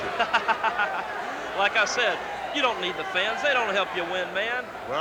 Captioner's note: laughs